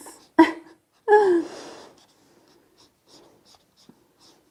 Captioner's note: laughs; marker scratching